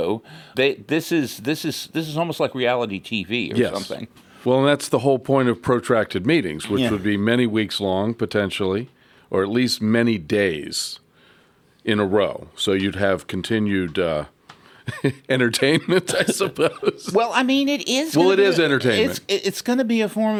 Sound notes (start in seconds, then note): 15.8 laughs